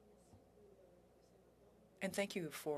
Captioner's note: speaking French